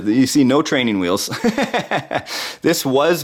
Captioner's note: laughing